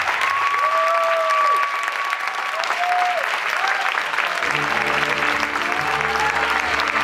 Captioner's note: applause and cheers